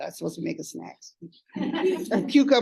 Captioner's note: laughter